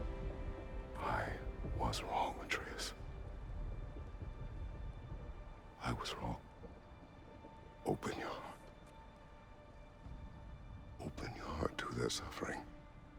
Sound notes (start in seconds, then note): none